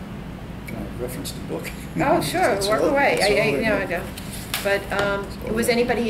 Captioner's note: laughs